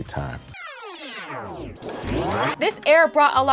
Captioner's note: tape rewinding